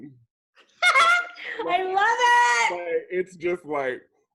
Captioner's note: laughs